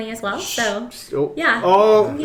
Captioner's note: shushes